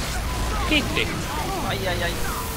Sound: sarcastic

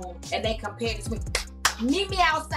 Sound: clapping

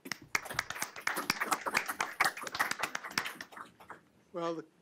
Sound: group clapping

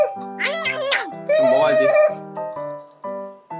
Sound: horse crying

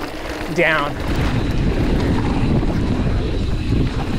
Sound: wind blows

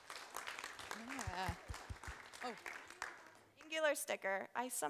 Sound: applause

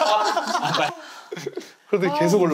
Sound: laughing

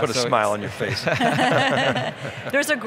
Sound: laughing

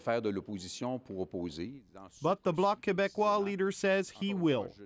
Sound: speaking French

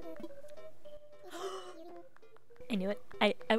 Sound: gasp

